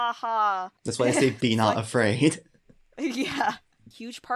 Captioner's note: chuckles